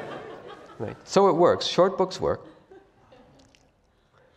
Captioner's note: laugh